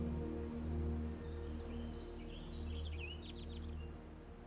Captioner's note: birds chirping